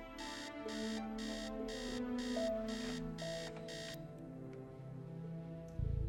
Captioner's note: alarm